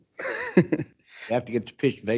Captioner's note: chuckles